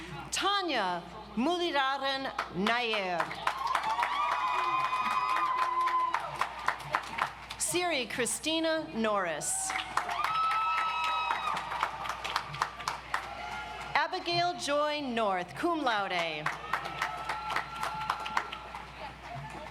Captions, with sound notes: Tanya Muralidharan Nair. (audience applauds) Siri Kristina Norris. (audience applauds) Abigail Joy North, Cum Laude. (audience applauds)